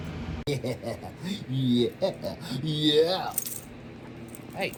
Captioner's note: giggles and laughs